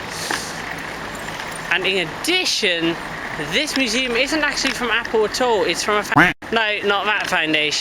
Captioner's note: quack